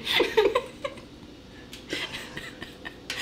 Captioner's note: laughing